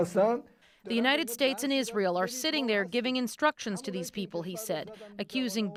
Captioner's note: speaking alternate language